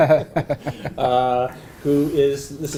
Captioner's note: laugh